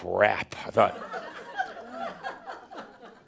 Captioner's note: more chuckles